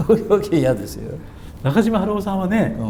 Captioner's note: laughs